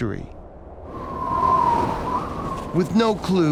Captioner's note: winds whipping